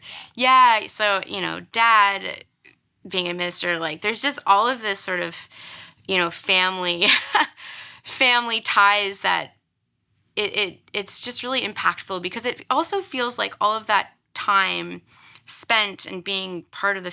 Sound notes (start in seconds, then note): 7.2 laughs